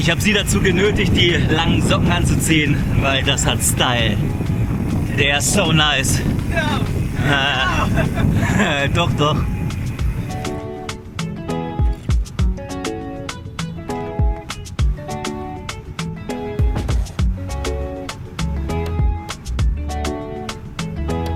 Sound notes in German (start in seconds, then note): 7.2 gelächter